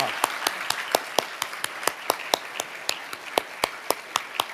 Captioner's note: audience applauding